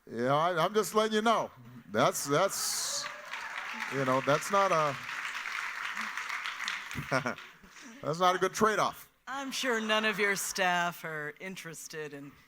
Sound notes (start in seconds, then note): 5.3 audience applauding; 6.9 chuckles